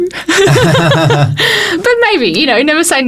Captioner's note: both laugh